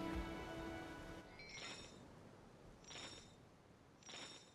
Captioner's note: chains clutching